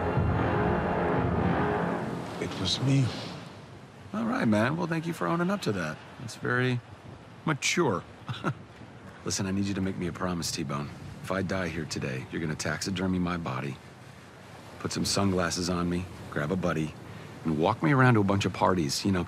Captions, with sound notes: It was me. All right, man. Well, thank you for owning up to that. That's very... mature. (chuckling) Listen, I need to make me a promise, T-bone. If I die here today, you're gonna taxidermy my body... put some sunglasses on me, grab a buddy, and walk me around to a bunch of parties.